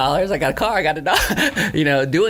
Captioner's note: laughs